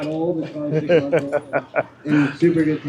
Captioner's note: laughing